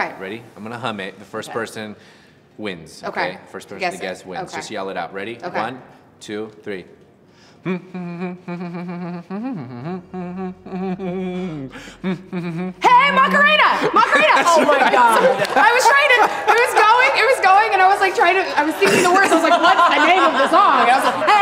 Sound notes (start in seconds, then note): 11.2 humming an upbeat tune; 12.8 shouts